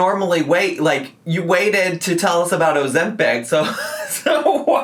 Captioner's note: laughs